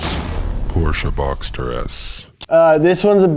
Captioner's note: voiceover